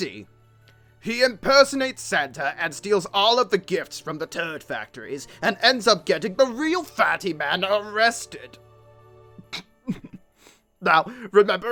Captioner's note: giggles